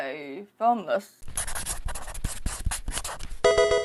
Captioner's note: scratching